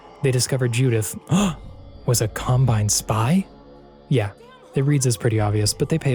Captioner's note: gasp